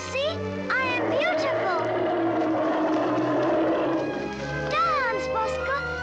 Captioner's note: bear growls